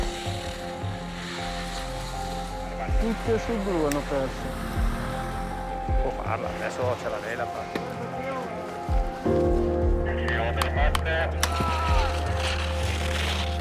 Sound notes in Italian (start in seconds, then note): 3.1 Gli allenatori chiacchierano in una lingua straniera; 9.3 musica rilassante